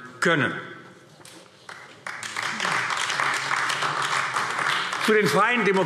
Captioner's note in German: Beifall AfD